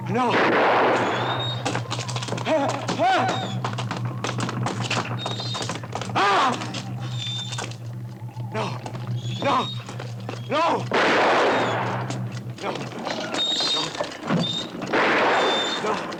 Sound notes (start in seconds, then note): 0.1 gun fires; 0.1 cart wheels creaking; 2.5 Morgan exclaims; 10.9 gun fires; 14.8 gun fires